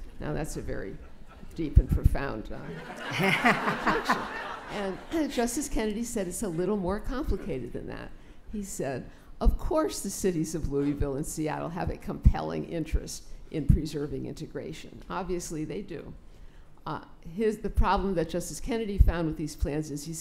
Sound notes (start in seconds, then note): 2.6 laughter